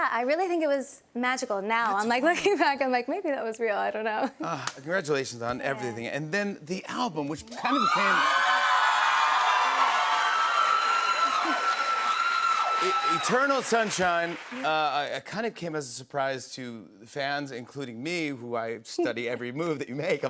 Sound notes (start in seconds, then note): 7.6 cheers and applause